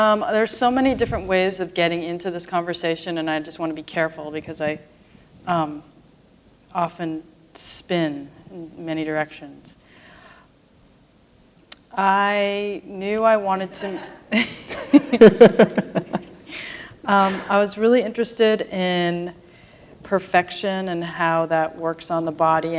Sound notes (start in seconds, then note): 13.8 laughter